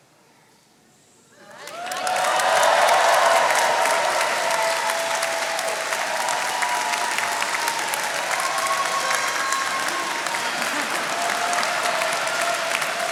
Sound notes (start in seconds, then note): 2.1 attendees cheering and applauding